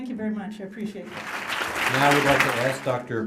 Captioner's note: applause